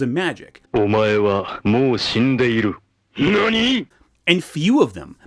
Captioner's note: both speaking in Japanese